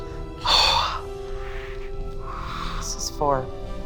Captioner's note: exhales